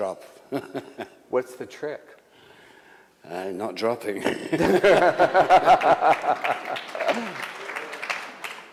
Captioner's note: applause